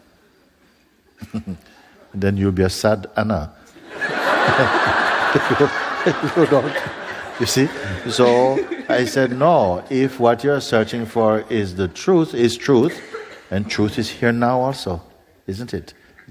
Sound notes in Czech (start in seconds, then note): 7.0 smích